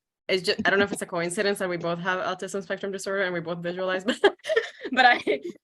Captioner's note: laughs